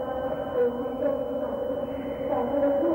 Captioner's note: humming